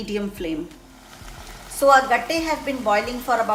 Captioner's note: water bubbles loudly